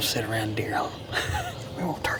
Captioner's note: chuckles